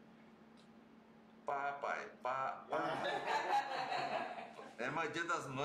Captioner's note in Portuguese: risos